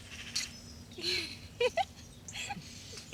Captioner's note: woman giggles